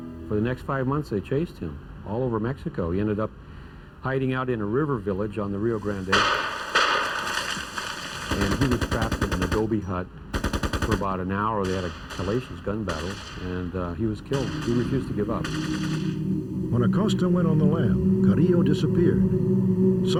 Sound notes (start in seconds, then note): 5.9 gunshots